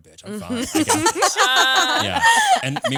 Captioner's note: all laughing